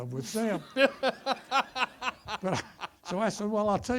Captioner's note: audience laughter